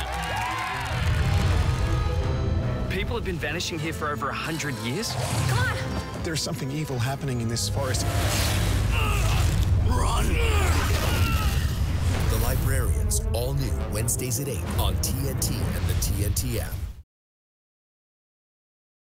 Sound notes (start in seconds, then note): 0.0 cheers and applause; 8.8 groans